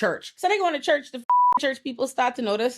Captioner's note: beep